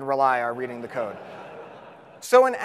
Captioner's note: audience laughs